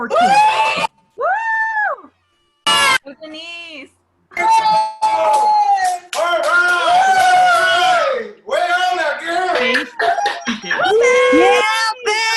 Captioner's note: cheering